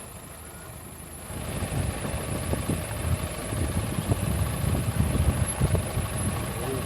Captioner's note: engine revving